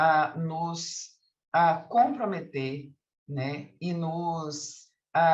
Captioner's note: continues speaking in Portuguese